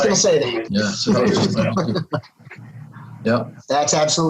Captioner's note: everyone laughing